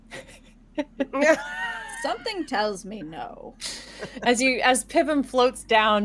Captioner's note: laughing